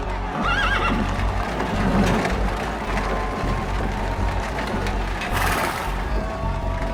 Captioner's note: crowd cheering; horse whinnies